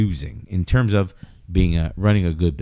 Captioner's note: uh